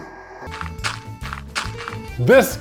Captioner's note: dirt crunching